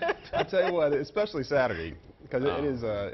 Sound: laughter

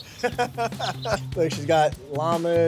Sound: laughs

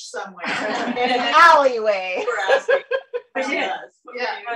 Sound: laughter

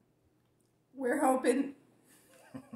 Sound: laughing

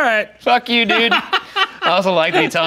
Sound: laughing

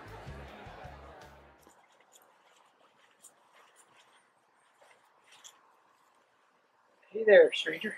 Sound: leaves crunching under feet

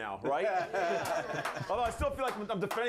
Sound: scattered applause

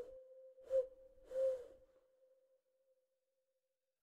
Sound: dove singing

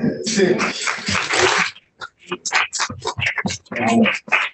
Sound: applause

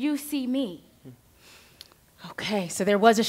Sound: exhales

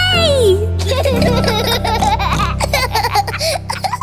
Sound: laughing

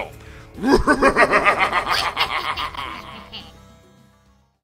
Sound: evil laugh

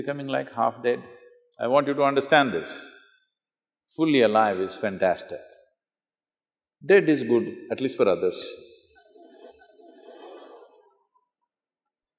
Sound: laughter

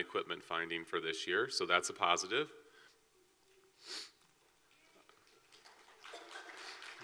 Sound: clapping

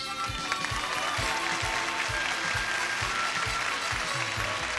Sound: audience clapping

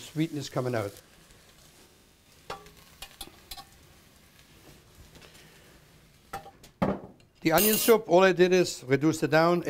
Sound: banging

